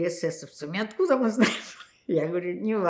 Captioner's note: laughing